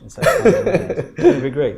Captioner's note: laughs